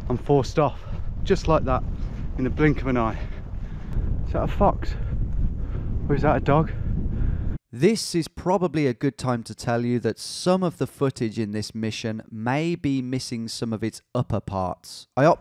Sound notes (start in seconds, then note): 7.5 voiceover